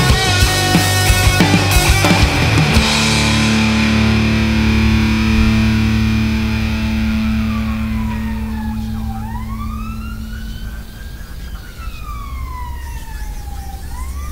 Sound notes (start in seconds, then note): 9.7 police sirens blaring